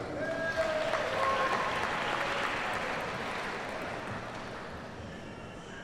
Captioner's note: audience cheers and applauds